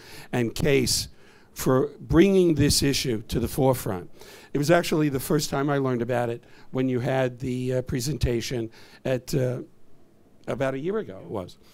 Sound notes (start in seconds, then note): none